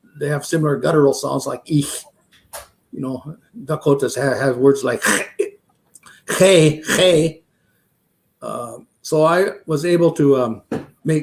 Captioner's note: speaking Dakota